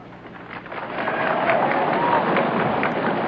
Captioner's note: crowd claps